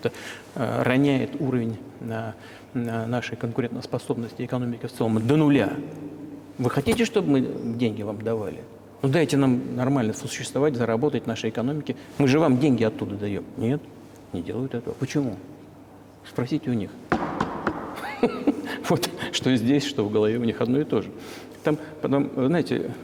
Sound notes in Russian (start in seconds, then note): 17.1 Стучит по столу